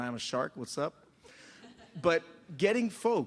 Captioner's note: laughter